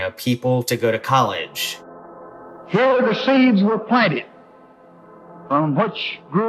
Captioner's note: soundbite of archived recording